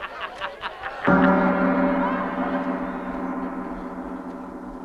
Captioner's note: gong resonating